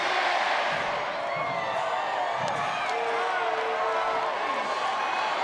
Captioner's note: crowd cheers